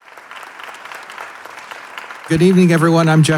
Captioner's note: audience applauding